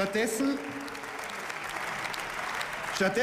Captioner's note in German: Beifall